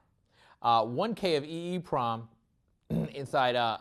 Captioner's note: cough